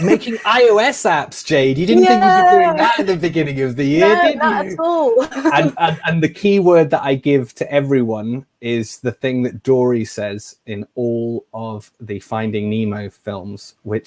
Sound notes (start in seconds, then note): 3.9 laughs